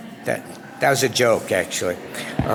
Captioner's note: audience laughter